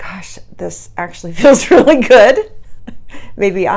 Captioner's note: chuckles